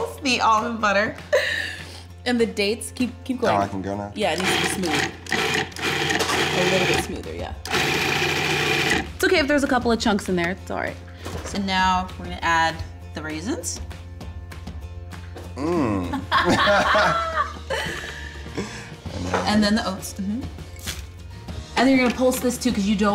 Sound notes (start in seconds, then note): 7.6 blender whirs; 16.0 laughter